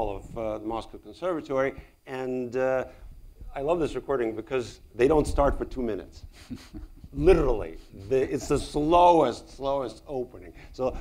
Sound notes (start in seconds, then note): 6.3 laughs